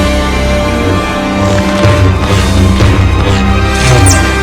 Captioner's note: cool blade swing